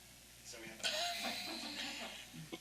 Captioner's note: speaks faintly